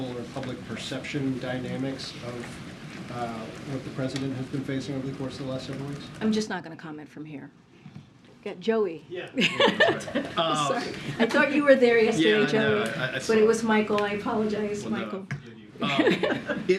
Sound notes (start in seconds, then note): 9.3 laughs; 15.8 laughter